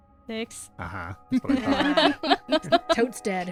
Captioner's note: laughter